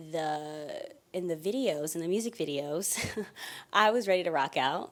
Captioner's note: giggling